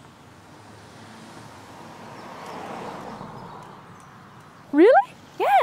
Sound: car passing

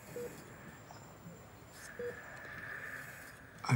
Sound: sobbing

